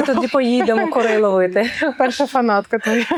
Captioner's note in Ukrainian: сміх